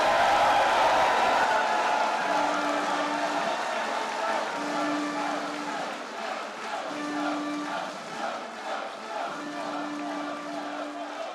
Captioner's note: applause